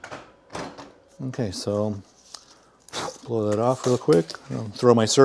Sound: blows

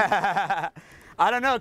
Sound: laughs

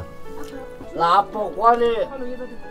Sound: local language

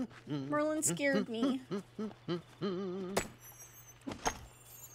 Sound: Merlin Humming

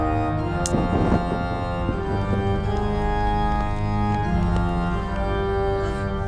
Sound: dramatic organ music; fire crackles

